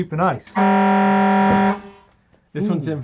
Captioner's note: buzzing